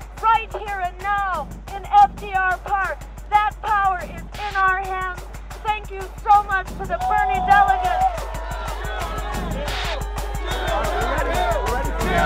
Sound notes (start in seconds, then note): 6.6 crowd; 7.0 cheering